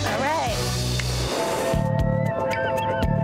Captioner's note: high five clap; upbeat music